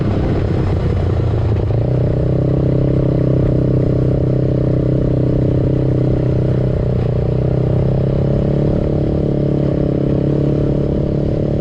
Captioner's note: engine sounds from ATV